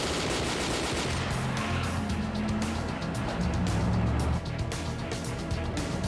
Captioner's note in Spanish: sonido de motores